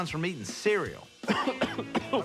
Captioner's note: coughs